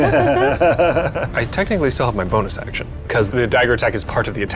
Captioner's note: players laughing